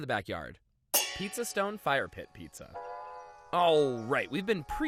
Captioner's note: metal clangs